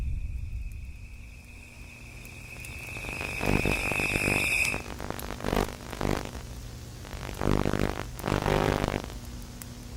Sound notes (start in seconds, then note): 2.5 crickets chirping; 2.5 static hissing